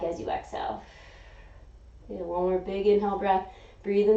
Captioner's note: inhaling; exhaling